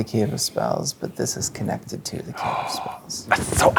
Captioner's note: gasps